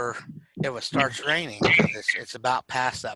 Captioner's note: audio is choppy